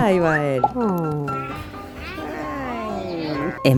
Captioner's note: fiddling